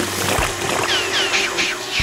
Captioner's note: whizzing